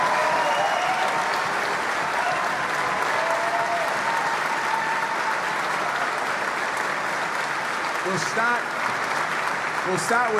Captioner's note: applause